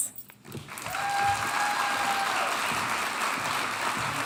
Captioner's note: audience applauding